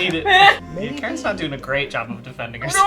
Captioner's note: laughing